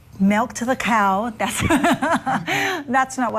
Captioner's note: laughing